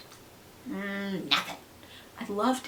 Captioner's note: lick, lick, lick